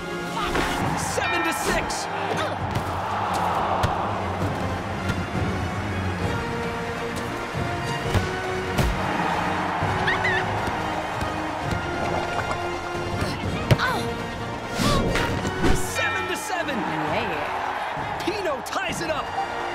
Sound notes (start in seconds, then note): 4.2 tense music plays; 9.4 crowd cheers; 9.4 giggles